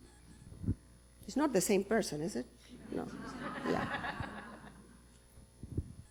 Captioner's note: laughter